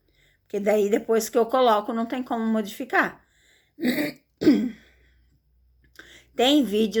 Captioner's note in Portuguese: limpando a garganta